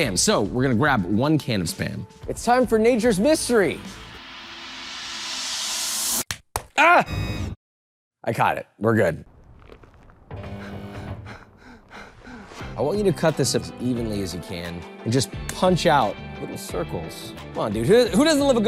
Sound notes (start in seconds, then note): 4.0 scene chimes dramatically; 11.2 player 456 panting